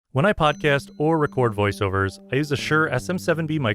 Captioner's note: voiceover